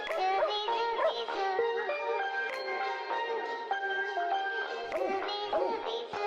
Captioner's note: dog barking